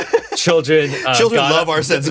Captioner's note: giggles